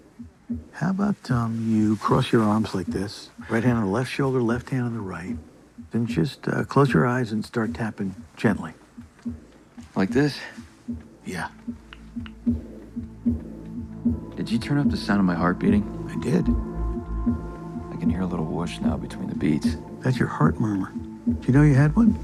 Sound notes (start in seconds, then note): 12.0 speaker volume increases